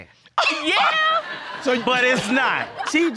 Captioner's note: audience laughing